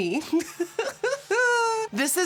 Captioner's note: laughter